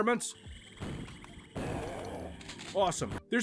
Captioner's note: vastly superior nature SFX from a vastly superior Build engine game